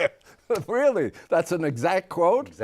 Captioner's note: laughter